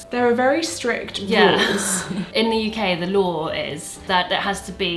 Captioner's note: laughs